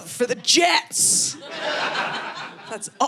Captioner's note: audience laughing